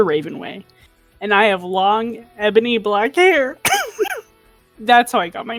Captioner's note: stifling laughter